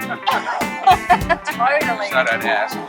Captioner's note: laughing